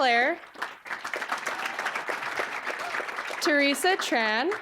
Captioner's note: applause